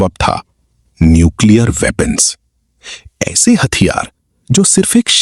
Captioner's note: nasal sound